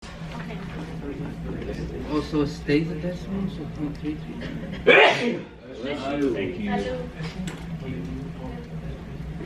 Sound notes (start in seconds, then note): 0.0 students conversing; 4.8 teacher sneezes